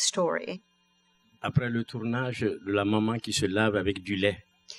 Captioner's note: speaking french